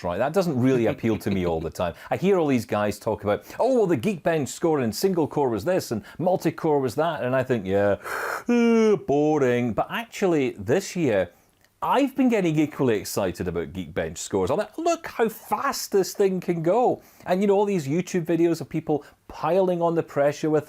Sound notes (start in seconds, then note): 8.0 mimics yawning